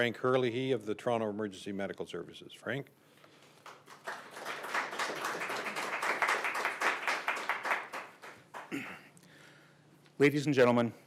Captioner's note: applause